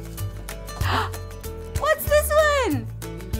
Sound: gasps

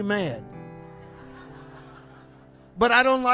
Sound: congregation laughs

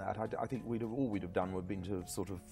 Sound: stammers

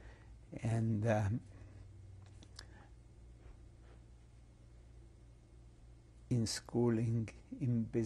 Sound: pauses for 6 seconds

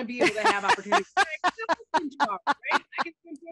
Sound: laughter

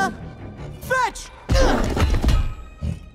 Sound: grunt

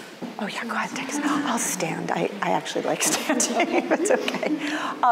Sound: laughs

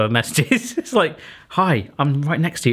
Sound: giggling

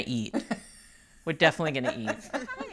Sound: laughing

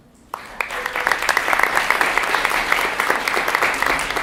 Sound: applause

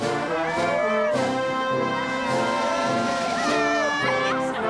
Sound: cheering

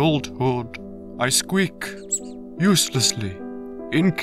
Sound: squeak

